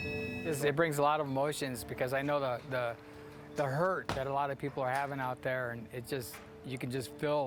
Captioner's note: bell ringing